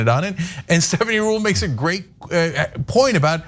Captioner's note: laugh